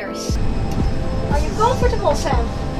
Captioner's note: engine roaring